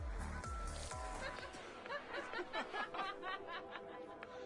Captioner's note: laughing maliciously